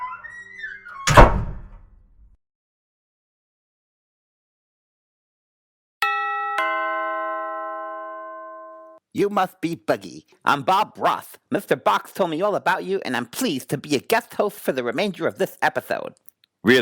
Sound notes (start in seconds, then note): 0.0 door creaking and slamming; 6.0 bell ringing